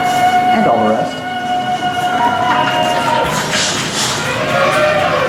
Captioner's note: voice of Tarzan screaming